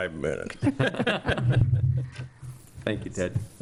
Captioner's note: people laughing